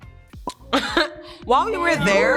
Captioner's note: Joy laughs